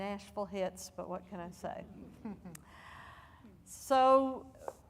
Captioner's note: audience laughing